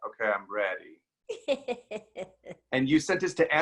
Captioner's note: laughs